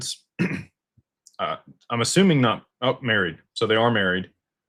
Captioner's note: clears throat